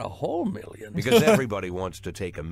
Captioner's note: laughs